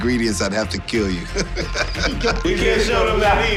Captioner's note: laughs